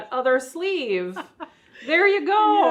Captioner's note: laughs